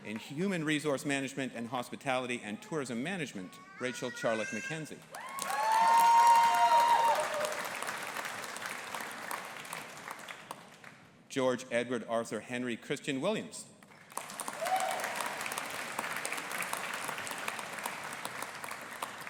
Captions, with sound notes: In Human Resource Management and Hospitality and Tourism Management, Rachel Charlotte MacKenzie. (AUDIENCE APPLAUDING AND CHEERING) George Edward Arthur Henry Christian Williams. (AUDIENCE APPLAUDING)